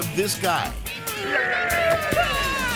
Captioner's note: passerby whimpering; prankster growling